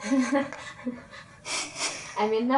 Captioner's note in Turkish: Awkward görüşmeci kahkaha